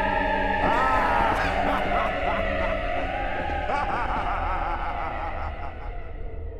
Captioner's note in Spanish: Coach se ríe